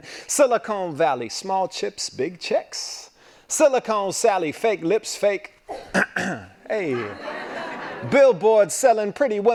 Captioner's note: laughing